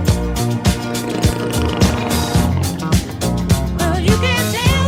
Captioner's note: animal growling